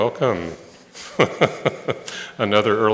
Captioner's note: laughter